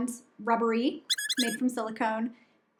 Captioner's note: toy squeaking